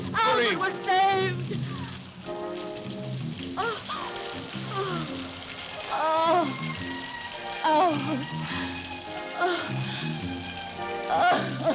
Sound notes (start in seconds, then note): 4.7 Corinne moaning; 8.4 calming orchestral music continues